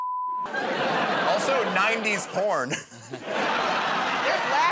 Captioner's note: chuckles